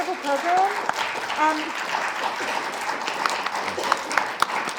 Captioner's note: audience applauding